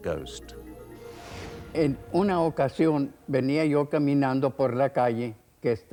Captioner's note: speaking foreign language